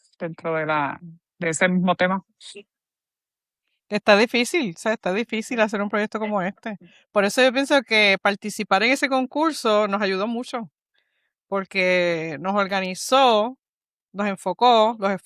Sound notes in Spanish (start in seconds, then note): none